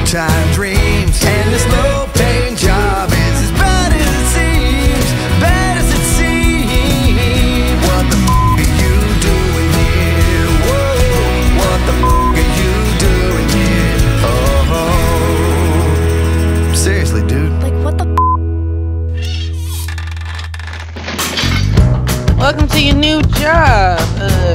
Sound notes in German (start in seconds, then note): 8.2 Beep